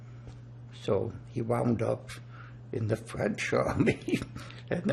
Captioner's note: laughing